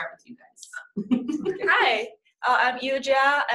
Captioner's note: laughing